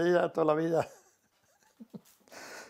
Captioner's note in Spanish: ríe